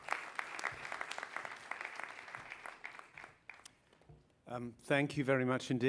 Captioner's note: applause